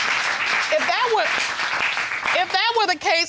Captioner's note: audience applauding